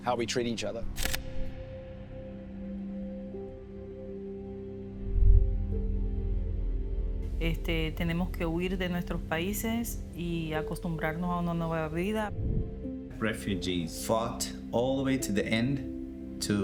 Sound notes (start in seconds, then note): 2.0 gentle music; 7.2 speaker speaking Spanish